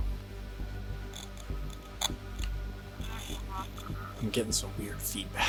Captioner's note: static crackling